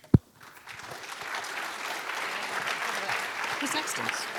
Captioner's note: applause